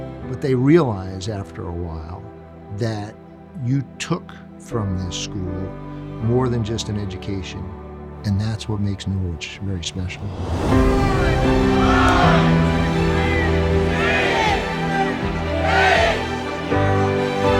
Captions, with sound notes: but they realize after a while that you took from this school more than just an education, and that's what makes Norwich very special. (inspirational music) (crowd vocalizing)